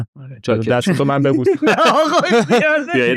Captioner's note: laughs